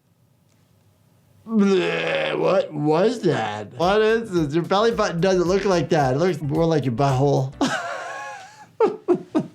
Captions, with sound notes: (gags) What was that? What is this? Your belly button doesn't look like that. It looks more like your butt hole. (laughs)